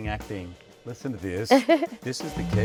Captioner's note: Cynthia chuckling